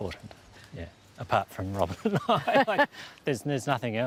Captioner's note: laughs